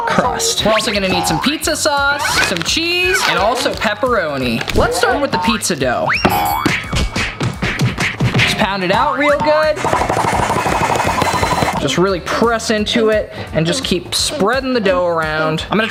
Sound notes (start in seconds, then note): 6.1 dough thudding; 9.2 dough thumping